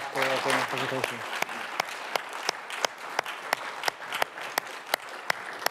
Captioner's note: audience applauding